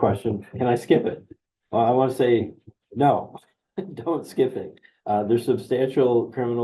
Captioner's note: chuckles